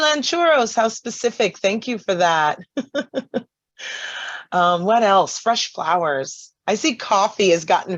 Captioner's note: laughs